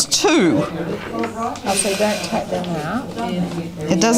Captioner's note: audience chatter